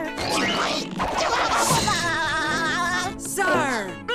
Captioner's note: laughs histerically